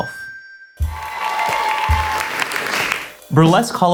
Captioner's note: audience applauding